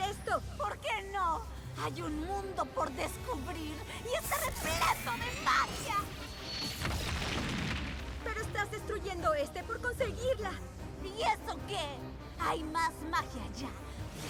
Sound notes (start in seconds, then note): 6.3 crash